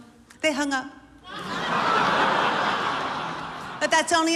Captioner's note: laughter